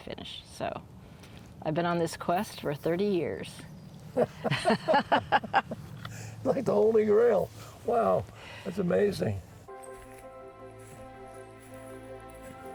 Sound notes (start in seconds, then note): 4.1 laughs; 9.6 relaxing music playing